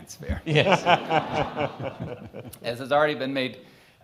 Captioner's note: all laughing